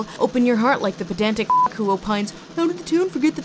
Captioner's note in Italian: beep